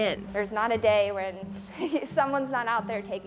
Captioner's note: laughs